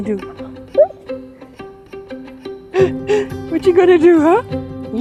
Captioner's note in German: kichert